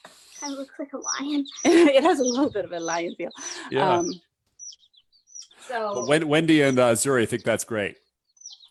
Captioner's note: chuckles